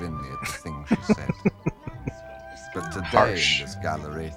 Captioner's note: chuckling